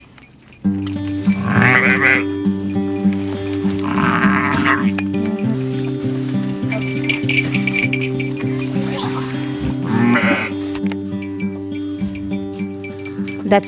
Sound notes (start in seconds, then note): 0.8 bells, lambing sounds cronchy straw